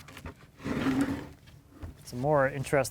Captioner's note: wood clunking; wood scrapping